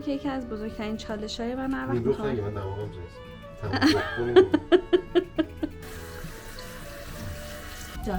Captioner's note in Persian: خنده